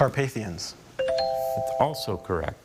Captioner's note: bell chimes